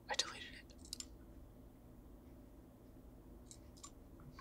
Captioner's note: mouse clicking